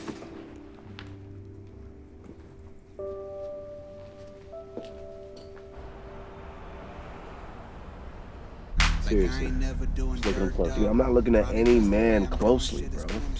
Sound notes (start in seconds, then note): 0.2 hopeful piano; 4.8 traffic humming